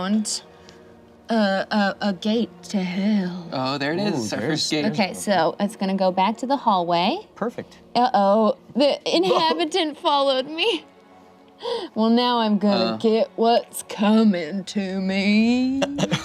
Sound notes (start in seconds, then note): 9.2 laughs